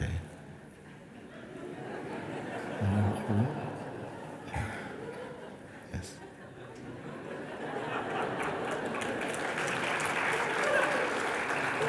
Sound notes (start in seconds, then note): 0.9 risas; 7.6 risas y aplausos